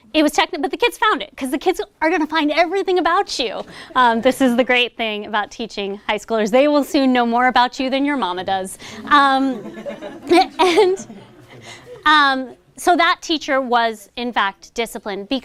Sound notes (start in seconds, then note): 9.0 laughter